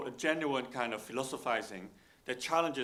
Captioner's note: none